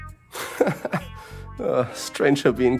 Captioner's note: laughs